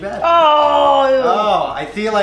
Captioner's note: groans